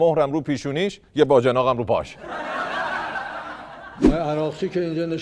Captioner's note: laughter